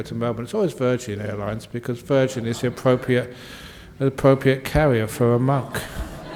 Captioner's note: laughter